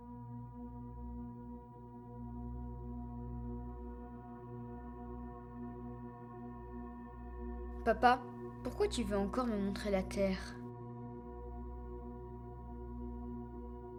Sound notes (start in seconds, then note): 4.0 soft music; 8.0 child's voice